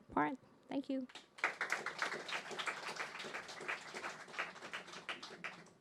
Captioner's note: audience clapping